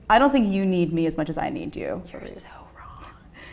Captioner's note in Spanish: Susurro